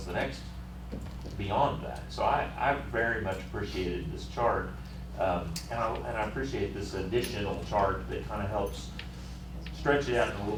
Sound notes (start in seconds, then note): none